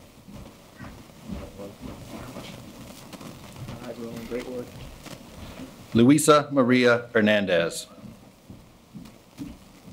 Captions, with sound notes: (speaking faintly) Hi, Roland, great work. Luisa Maria Hernandez.